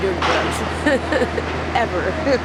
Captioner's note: laughs